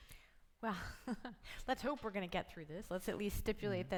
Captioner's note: laughs